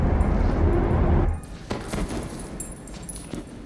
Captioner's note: thudding